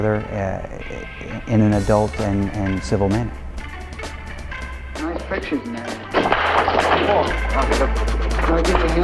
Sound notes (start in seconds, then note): 6.1 books dropping